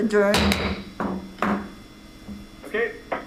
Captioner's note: gavel taps